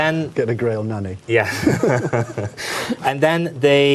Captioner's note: chuckles